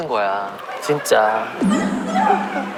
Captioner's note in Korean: 웅성 웅성 웅성